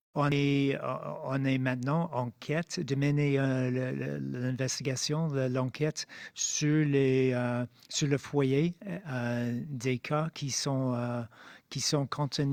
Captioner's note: speaking French